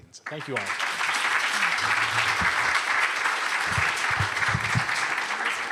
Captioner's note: applause